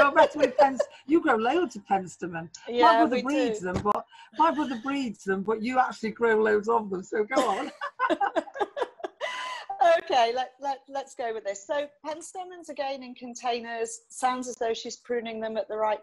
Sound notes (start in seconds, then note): 0.0 laughing; 0.1 muttering; 3.1 mutters; 7.3 laughing; 7.3 laughs; 10.1 screen beeps